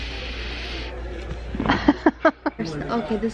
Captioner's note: sniffs; laughs